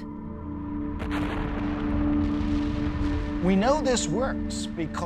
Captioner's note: volcano erupting